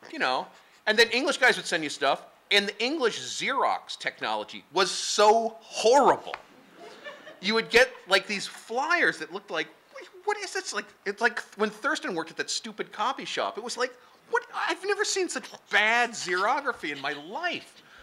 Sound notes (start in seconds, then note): 6.7 laughing